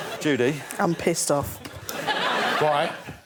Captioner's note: laughter